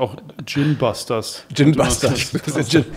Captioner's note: lacht; Beschwingte Musik